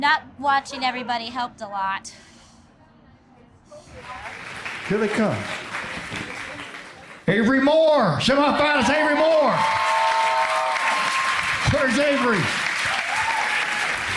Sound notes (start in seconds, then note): 9.9 crowd applauds